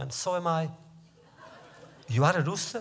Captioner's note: laughter